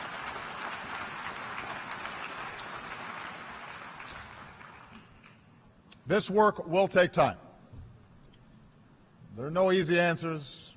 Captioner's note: applause